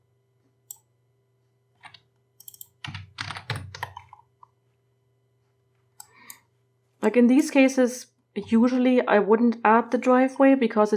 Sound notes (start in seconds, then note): 2.4 typing